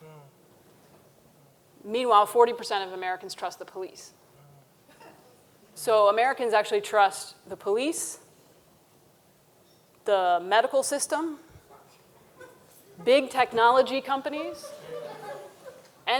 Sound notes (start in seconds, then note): 4.8 audience member chuckles; 14.4 audience chuckling